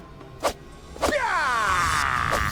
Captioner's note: ninja sounds